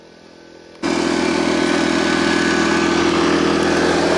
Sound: engine runs

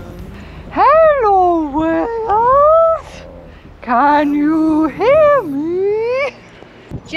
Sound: trying to sound like a whale

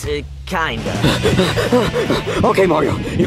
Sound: Mario panting

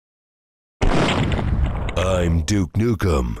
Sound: bang

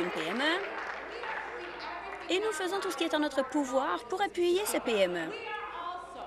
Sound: applause

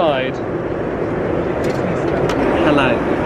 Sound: engine rumbling continues

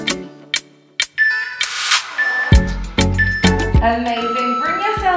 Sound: timer beeping

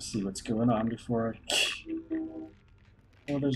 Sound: laughs softly

